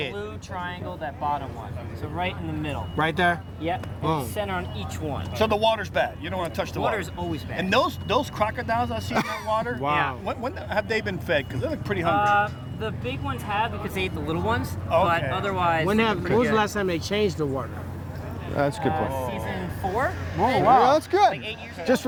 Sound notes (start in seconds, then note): 10.2 laughs